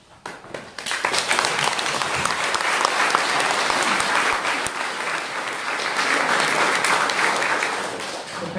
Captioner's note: applause